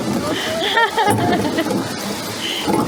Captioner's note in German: Gelächter